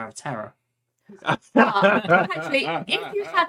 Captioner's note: laughing